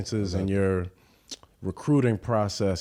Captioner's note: none